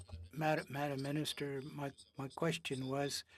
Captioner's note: speaking French